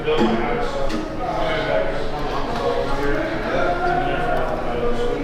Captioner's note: crowd Chattering